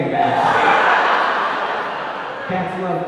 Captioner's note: audience laughing